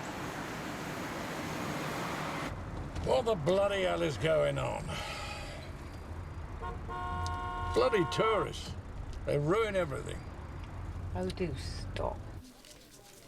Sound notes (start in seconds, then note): 0.1 engine rumbling; 4.8 sighs; 6.5 horn honking